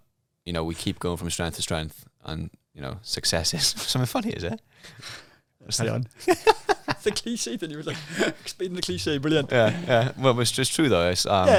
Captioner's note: laughing